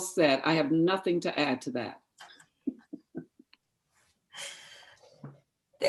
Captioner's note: laughter